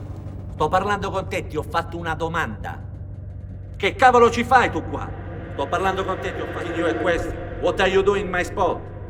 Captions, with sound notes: [ITALIAN] [ITALIAN] WHAT ARE YOU DOING IN MY SPOT?